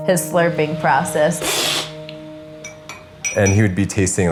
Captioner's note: slurping